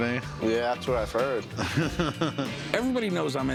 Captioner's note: laughs